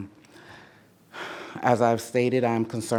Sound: takes deep breath

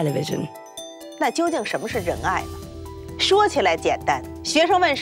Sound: speaking Chinese

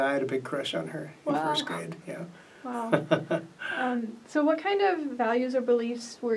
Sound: laughs

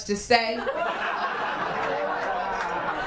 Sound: laughter, applause, and cheering

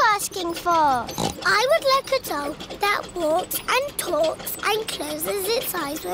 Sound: snorts

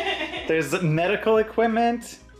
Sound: laughing

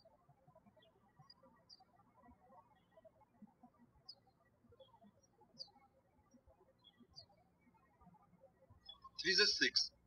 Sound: birds chirping

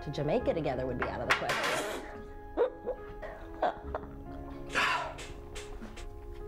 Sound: Joey spits

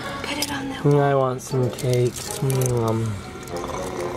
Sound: snores

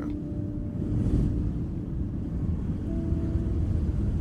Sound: wind howling

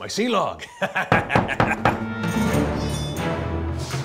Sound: knock at the door

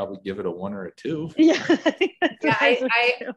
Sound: laughs

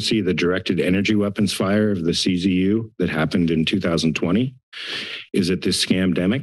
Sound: inhales

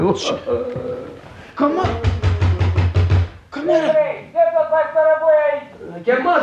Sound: knocks on the door

